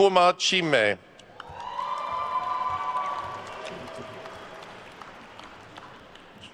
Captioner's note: attendees cheering and applauding